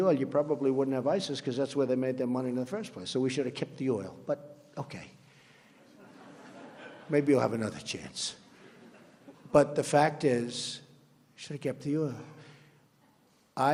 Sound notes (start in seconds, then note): 5.8 laughter